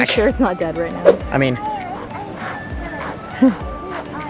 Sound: blowing

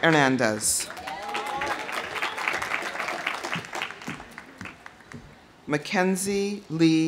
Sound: audience applauding; audience cheering

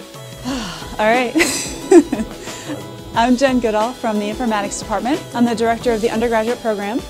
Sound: exhales

